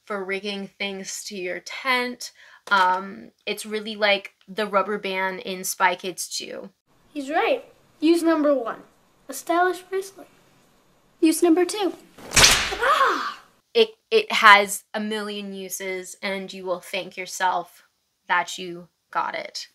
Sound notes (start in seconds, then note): 12.2 thwack